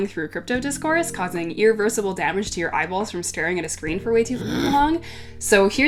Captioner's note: grunt